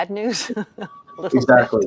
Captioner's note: laughs